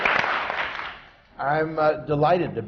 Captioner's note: applause